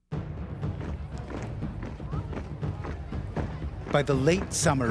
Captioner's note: voiceover